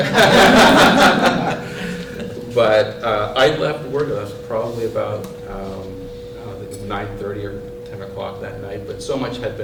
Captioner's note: laughter